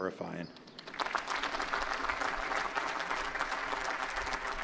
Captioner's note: applause